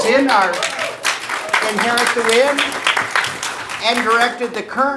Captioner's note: audience applauding